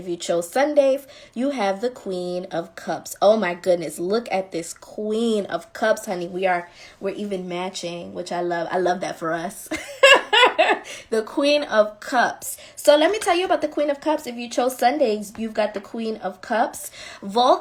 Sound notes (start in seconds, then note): 9.7 laughing